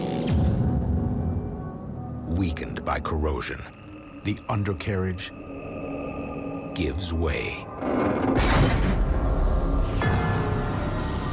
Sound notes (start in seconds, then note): 7.7 creaking